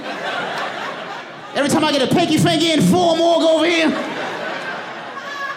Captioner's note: audience laughing